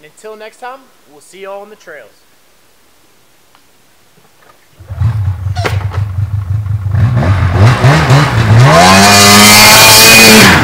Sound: engine starts first pull and revs

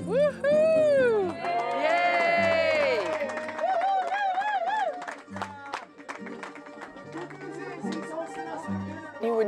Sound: cheers and applause

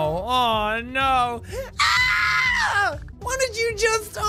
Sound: screams

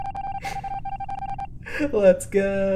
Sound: giggling

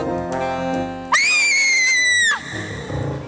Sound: Aveline lets out a bloodcurdling scream

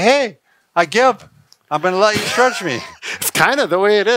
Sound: both laughing

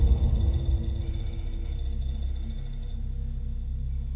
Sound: alarm clock stopping

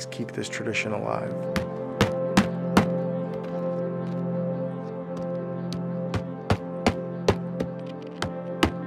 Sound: hammering

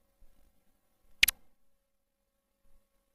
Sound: click

